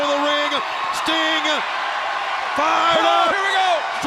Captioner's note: crowd cheering